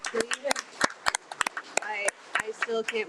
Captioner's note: attendees applaud